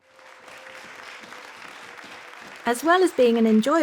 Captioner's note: guests clapping